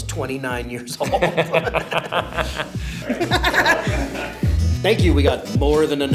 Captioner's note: Ben and Bobby laugh